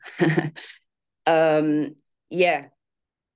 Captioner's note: laughs